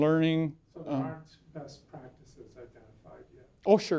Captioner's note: voiceover